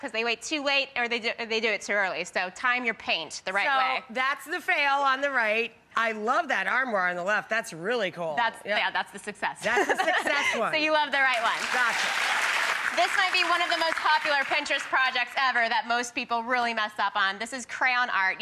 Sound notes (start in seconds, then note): 9.7 laughs; 11.2 applause